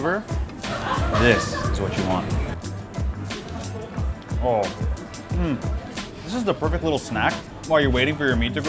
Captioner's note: makes happy sounds